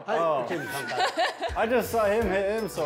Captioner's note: laughter